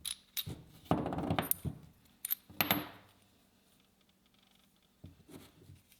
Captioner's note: gears clatter onto table